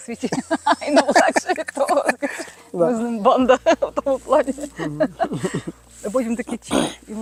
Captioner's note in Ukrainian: сміх